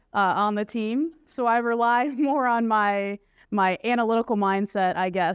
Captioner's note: laughter